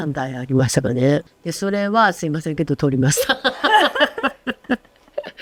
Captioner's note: laughs